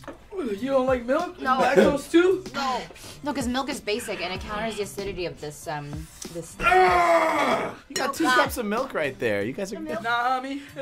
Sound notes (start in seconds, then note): 6.6 groaning painfully